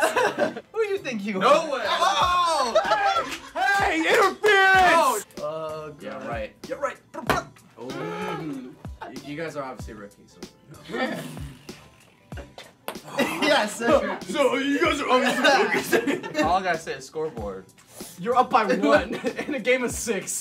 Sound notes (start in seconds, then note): 10.9 blowing raspberry